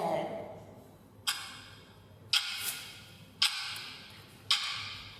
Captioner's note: sound of a ticking clock